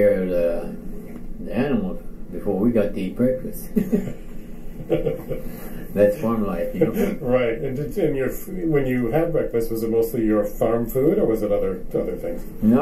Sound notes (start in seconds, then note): 6.6 chuckles